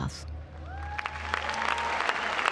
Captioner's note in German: Jubel, Applaus